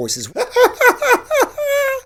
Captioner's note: laughs